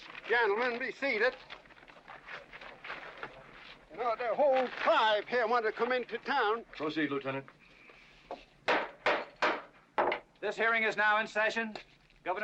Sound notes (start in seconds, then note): 8.6 gavel banging